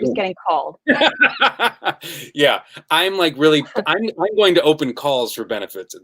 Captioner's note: laughs